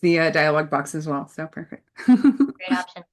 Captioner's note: laughs